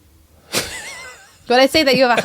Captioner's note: laughing